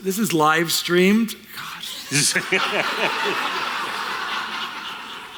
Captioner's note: laughter